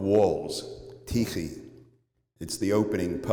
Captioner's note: non-english speech